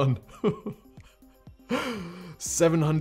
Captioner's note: chuckles